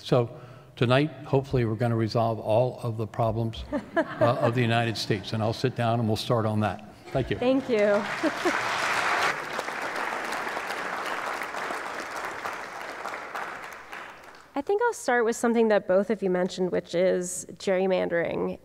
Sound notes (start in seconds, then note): 3.6 laughter; 12.7 applause